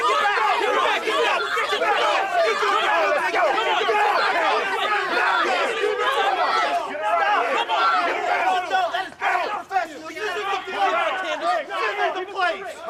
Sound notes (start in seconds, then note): 3.7 screaming